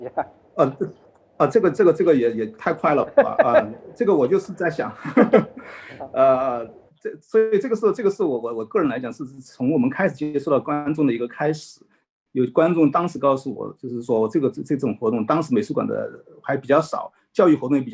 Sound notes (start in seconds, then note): 2.7 both laugh; 2.7 laughs